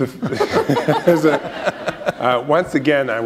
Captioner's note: laughter